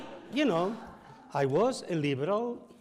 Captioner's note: audience sighs; audience laughs